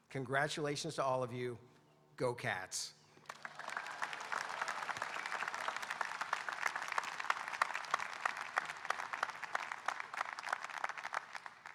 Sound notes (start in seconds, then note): 3.2 audience applauding